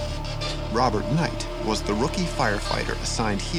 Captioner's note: voiceover